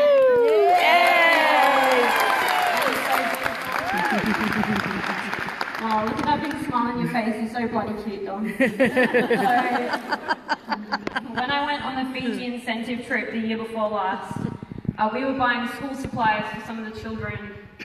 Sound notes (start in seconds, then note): 0.0 audience applause; 8.4 some audience laughter